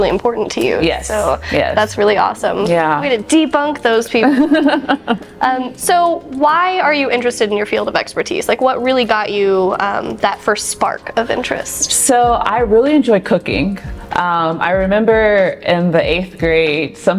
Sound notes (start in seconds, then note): 4.2 laughing